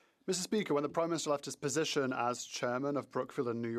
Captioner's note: speaking French